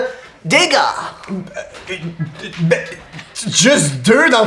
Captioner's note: Hugo stammers